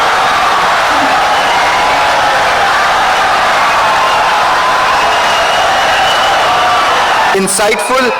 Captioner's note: wild applause and cheering for 17 seconds